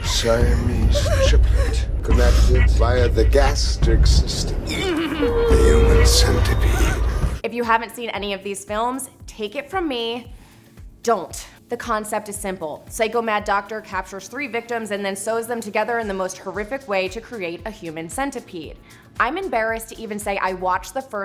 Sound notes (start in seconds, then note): 4.6 choking and crying